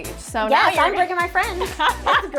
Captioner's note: laughs